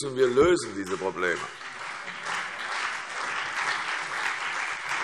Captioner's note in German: Beifall CDU, BÜNDNIS 90/DIE GRÜNEN, Freie Demokraten und vereinzelt SPD